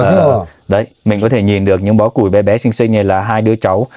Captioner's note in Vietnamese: hắng giọng